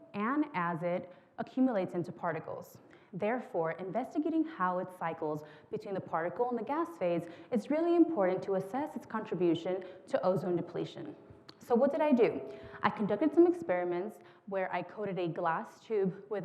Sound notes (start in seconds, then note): none